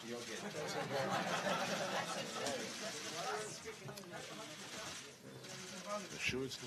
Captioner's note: laughter